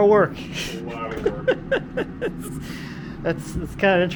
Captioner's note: laughing